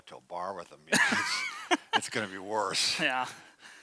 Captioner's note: both laughs